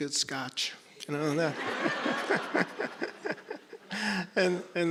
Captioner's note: all laughing